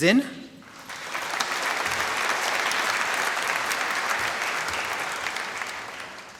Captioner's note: applause